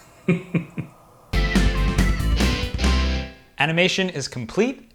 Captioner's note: laughs